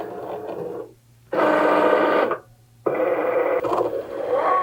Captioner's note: machine whirring